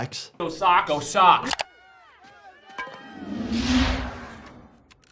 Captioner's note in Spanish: chasquido del teclado